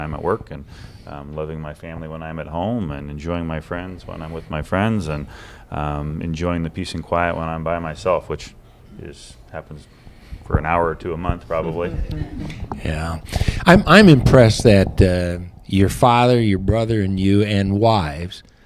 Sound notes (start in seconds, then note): 11.6 laughter